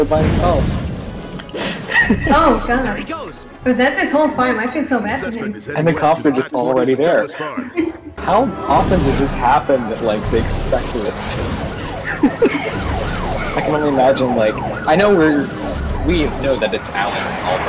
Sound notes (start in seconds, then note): 11.8 both laugh